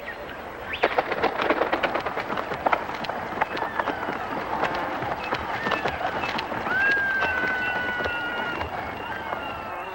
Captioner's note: Χειροκρότημα